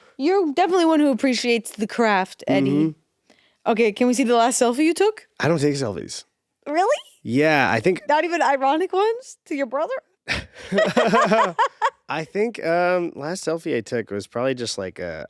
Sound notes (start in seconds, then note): 10.2 both laughing